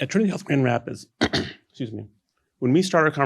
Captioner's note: clears throat